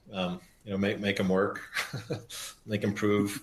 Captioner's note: laughs